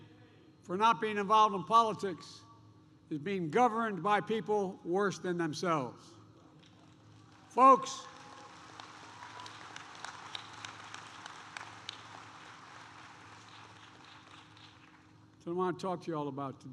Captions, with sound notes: for not being involved in politics is being governed by people worse than themselves. (Applause.) Folks, it's what I want to talk to you all about today.